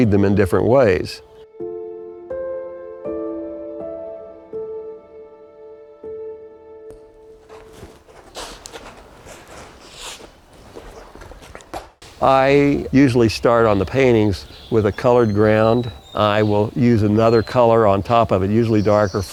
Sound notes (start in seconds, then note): 3.4 soft piano music ends; 7.3 brush on canvas